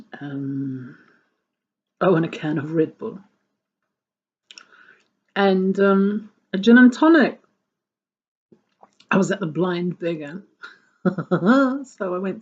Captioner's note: chuckles